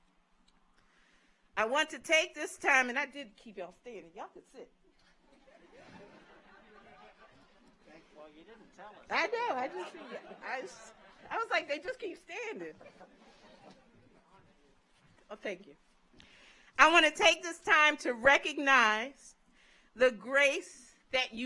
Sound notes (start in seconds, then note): 5.4 audience laughs; 5.7 overlapping chattering